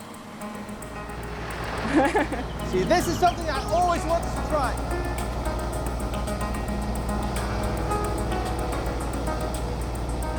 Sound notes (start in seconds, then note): 1.8 laughs; 7.6 upbeat music